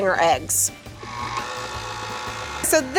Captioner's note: mixer slowly whirring